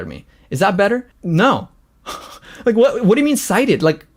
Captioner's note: laughs